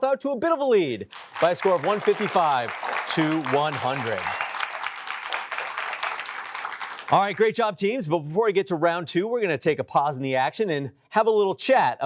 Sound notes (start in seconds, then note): 4.4 applause